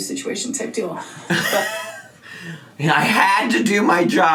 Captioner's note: laughs